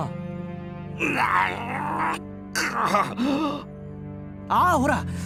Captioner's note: choking on salt